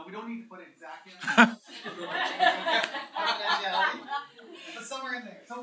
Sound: laughter

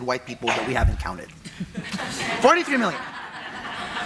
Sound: audience laughing

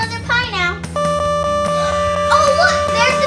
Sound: alarm sounding

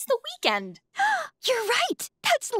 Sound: gasping

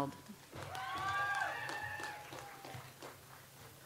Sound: audience applauds

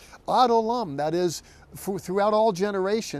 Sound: speaking in Hebrew

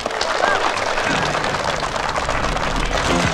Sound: applause

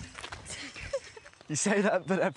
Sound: laughter

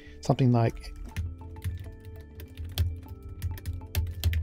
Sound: typing

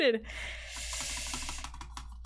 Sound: breathes in through teeth

